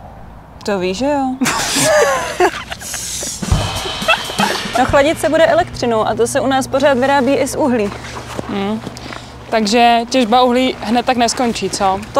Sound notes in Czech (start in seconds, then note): 1.4 Výbuch smíchu